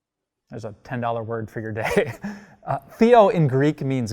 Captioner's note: laughs